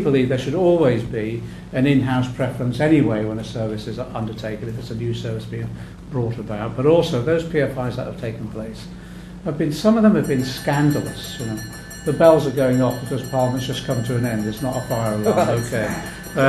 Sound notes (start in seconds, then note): 10.2 bell rings